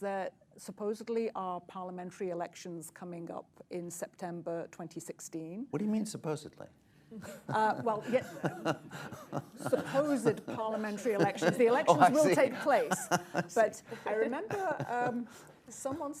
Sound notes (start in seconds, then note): 9.7 laughter; 12.5 laughs